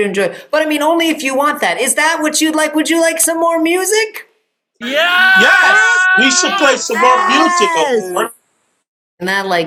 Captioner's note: cheering